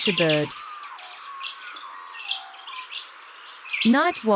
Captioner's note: birds chirping